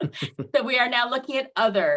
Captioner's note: laughs